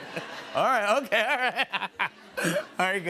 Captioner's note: laughs